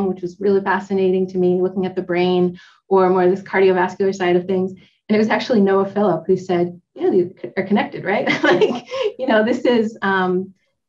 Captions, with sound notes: which was really fascinating to me, looking at the brain, or more this cardiovascular side of things. And it was actually Noah Philip who said, "Yeah, these are connected, right." (laughs)